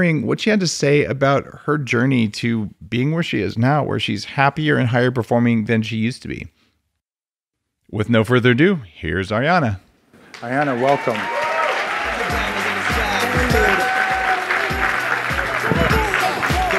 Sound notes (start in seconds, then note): 10.2 audience applauding; 10.2 audience cheering; 11.9 upbeat house music